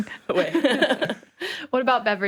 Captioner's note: laughs